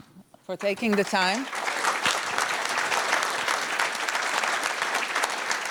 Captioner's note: audience applauding